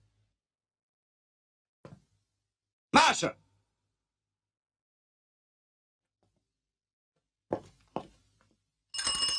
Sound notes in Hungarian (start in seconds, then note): 0.7 csend